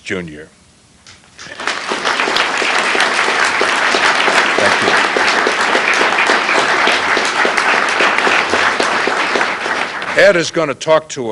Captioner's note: applause